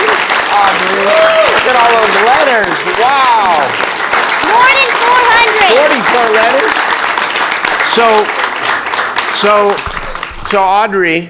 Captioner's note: applause; screaming